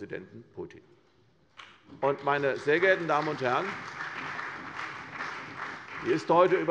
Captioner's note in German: Beifall bei der CDU und dem BÜNDNIS 90/DIE GRÜNEN